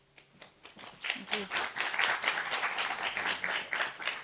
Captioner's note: audience applauding